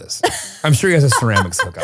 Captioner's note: laughing